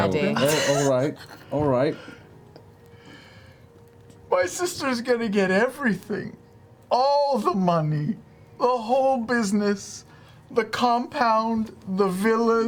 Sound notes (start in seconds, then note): 4.8 tearfully